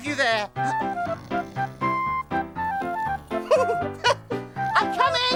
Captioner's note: upbeat music; Groove snoring